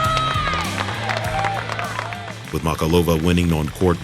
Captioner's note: clapping